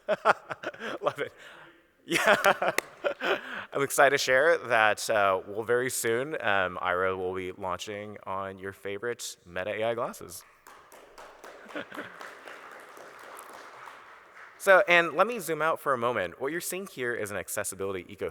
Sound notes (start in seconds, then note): 0.0 laughs; 3.6 laughs; 14.5 audience Applauds